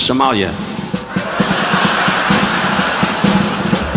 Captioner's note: audience laughing; upbeat drumming music continues